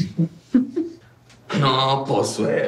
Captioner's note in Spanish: Risas